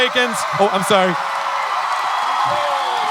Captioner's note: audience cheering